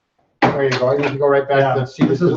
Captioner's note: standing desk thuds